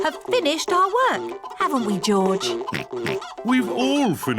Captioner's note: oinks